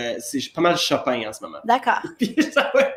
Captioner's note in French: rires